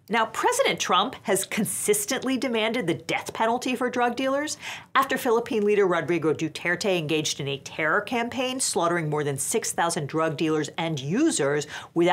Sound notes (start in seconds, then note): none